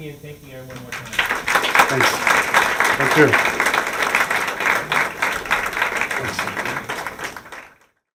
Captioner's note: applause